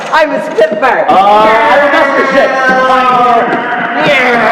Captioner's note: vocalising plane sounds